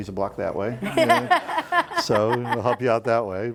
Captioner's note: laughing